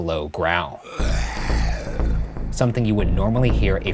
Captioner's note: growling